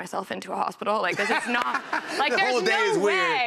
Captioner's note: laughter